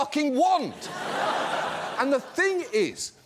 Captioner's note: audience laughs